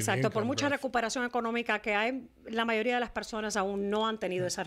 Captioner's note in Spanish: Hablando ingl\s